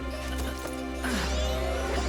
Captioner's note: groans